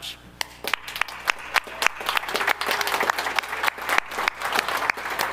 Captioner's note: audience applauding